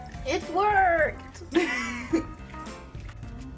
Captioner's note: laughs